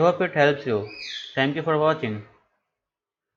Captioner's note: parrot scream